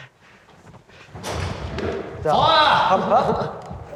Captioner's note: clunk!